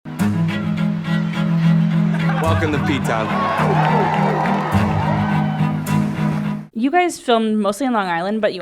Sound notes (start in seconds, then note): 0.1 dramatic music; 3.4 crowd cheering